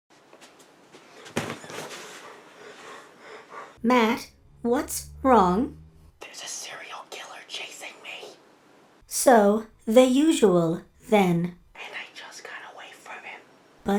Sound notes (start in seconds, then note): 0.2 heavy Breathing; 6.4 whispering; 11.9 whispering